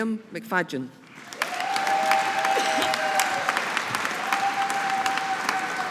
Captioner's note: audience applauding